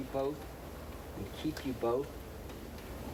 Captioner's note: speaking hebrew